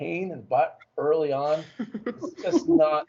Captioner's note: laughter